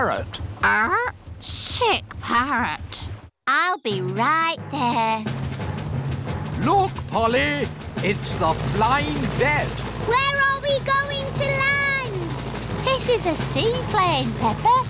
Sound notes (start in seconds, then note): none